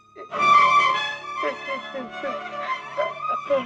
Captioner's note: crying